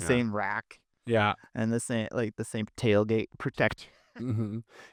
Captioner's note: laughing